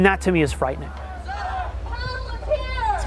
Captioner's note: crowd chants